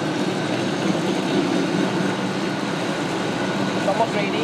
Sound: sound of very loud oven fan running

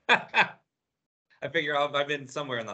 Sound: laughs

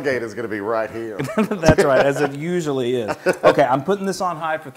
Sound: laugh

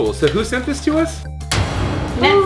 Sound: loud slamming

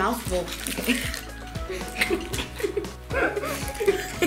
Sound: giggles

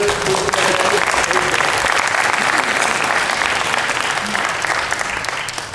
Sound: clapping

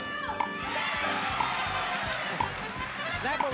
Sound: audience cheers

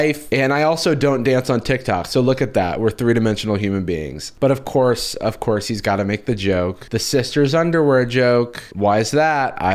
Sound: none

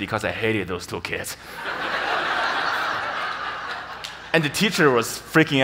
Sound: audience laughs

